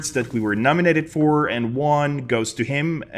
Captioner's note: none